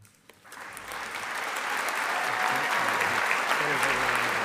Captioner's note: audience applauding